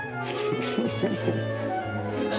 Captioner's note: giggles